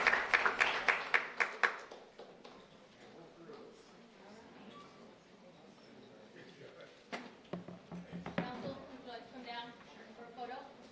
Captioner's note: applause